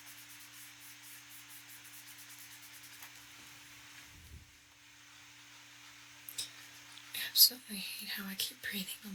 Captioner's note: tapping On Paper